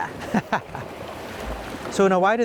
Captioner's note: laughing